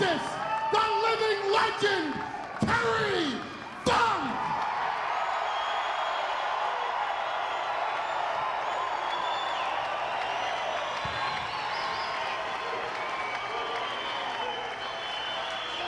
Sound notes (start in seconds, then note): 4.6 applause